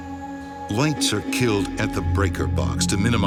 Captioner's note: voiceover